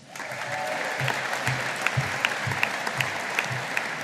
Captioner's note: audience applauding